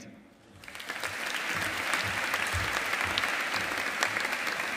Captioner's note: audience applauding